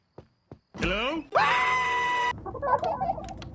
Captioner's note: Homer screams